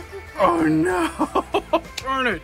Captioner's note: laughs